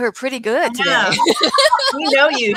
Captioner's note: laughter